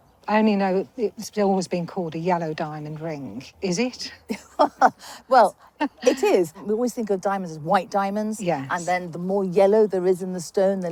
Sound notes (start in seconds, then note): 4.2 laughs